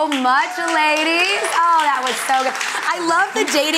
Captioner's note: audience applauding